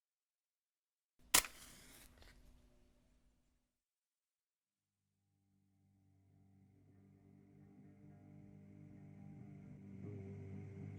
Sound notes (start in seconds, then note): 0.0 match strikes, flame catches; 1.4 pen scratching; 4.0 ominous humming